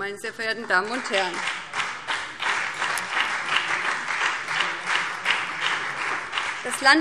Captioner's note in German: Beifall BÜNDNIS 90/DIE GRÜNEN und CDU